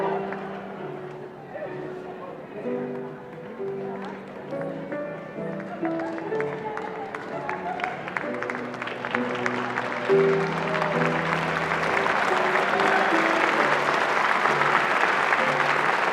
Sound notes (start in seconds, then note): 6.2 applause